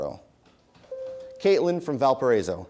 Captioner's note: bell rings